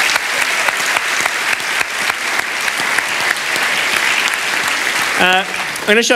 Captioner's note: applause